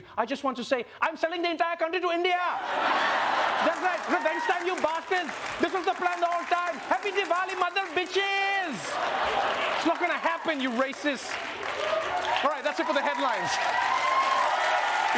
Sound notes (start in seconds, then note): 0.5 indian accent; 8.9 laughter